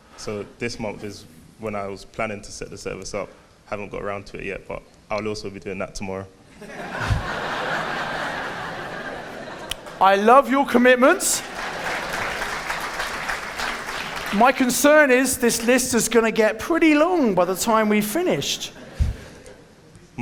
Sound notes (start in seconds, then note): 6.6 audience laughing; 10.7 audience clapping